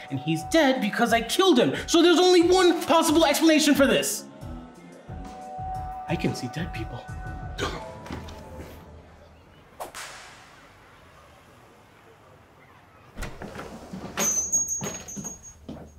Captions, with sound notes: and he's dead because I killed him. So there's only one possible explanation for this. I can see dead people. (Hunter scoffs) (whip cracks)